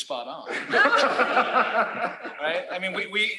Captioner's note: laughter